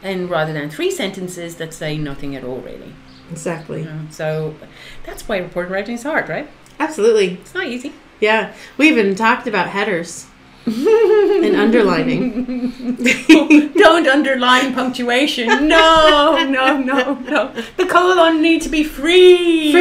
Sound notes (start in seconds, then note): 10.7 laughing